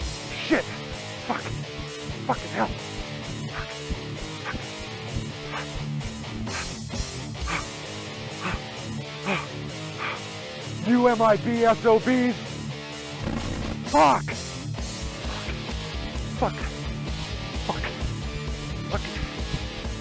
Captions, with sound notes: Get away from me! Shit. Fuck! Fucking hell! Fuck! (upbeat music) You MIB SOBs! (glitch) Fuck! (upbeat music) Fuck! Fuck!